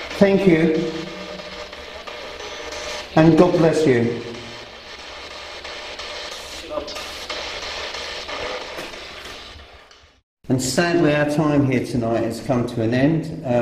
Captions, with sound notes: Thank you and God bless you. (static buzzing) And sadly our time here tonight has come to an end.